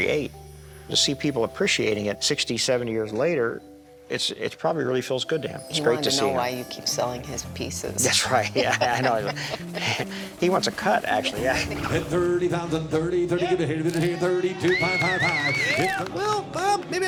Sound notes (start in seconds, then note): 11.8 rapid auctioneering; 14.2 cheers and applause